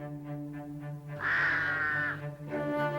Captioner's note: cawing